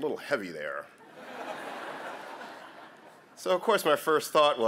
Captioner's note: laughter